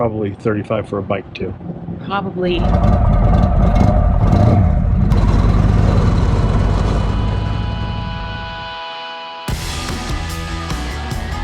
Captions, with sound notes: - Probably 35 for a bike too. - Probably. (engine revving) (upbeat rock music)